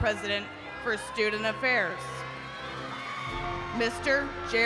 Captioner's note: attendees cheering